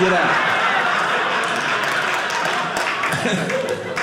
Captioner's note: audience laughing; audience applauding